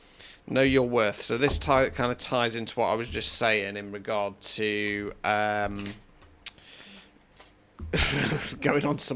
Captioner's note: snorts and laughter